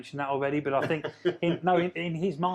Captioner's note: laughing